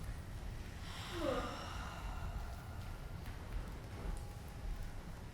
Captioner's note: students sighing